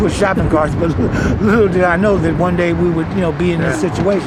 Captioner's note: chuckles